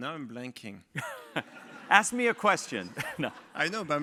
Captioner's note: laugh